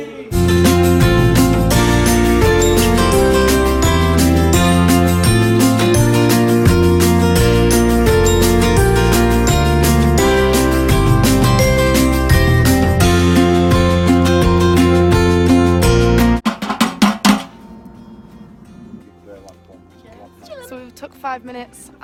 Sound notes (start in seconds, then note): 0.3 stringy music; 16.4 banging on some metal